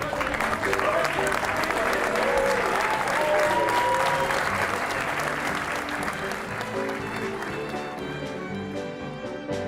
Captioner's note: applause